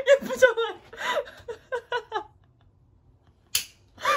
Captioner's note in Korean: 음소거 웃음